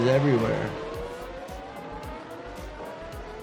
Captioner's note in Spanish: el motor ruge